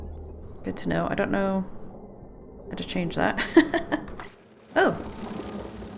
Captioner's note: laughs